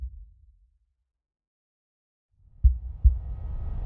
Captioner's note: heart beat thuds